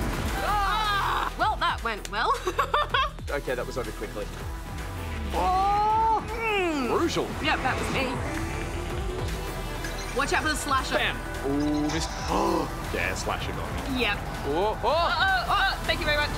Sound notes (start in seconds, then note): 12.4 gasps